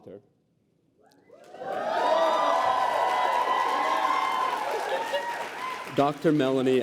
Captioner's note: applause